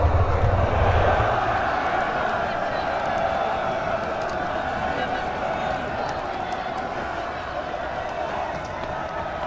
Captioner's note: roar of chatter